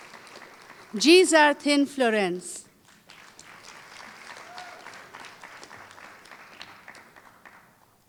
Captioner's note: applause